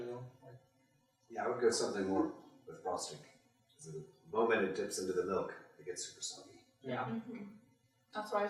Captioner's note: general agreement